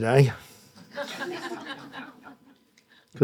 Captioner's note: audience laughing